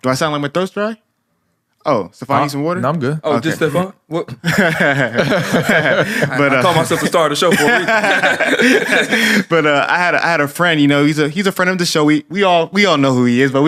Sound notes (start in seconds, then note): 4.4 laughter; 8.3 laughs